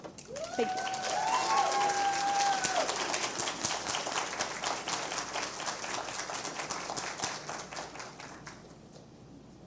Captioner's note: cheers and Applause